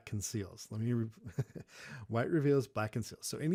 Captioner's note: laughs